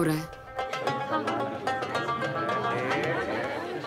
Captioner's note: People talking; Instrumental music playing